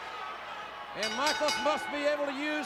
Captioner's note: ring bell dinging